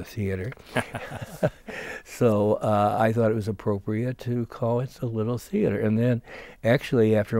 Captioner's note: laughing